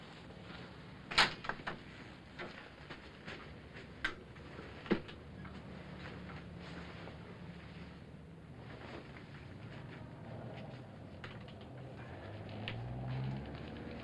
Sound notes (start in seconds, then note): 1.1 door opens; 5.7 clothing rustles